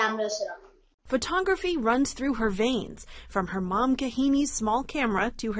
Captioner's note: voice-over